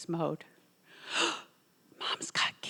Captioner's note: gasping